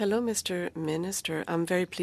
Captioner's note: speaking French